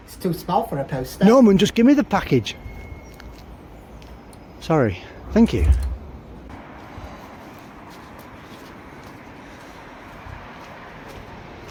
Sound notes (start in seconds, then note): 5.3 door shuts; 8.6 background traffic